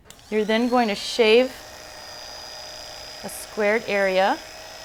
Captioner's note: electric razor buzzing